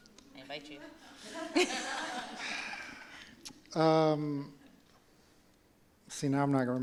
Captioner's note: laughter